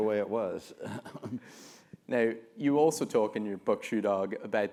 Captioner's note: laugh